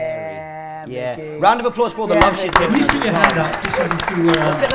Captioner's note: applause